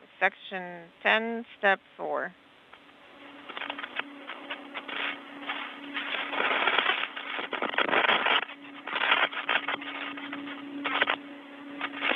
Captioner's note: speaking in native tongue